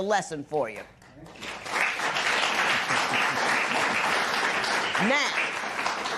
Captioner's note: applause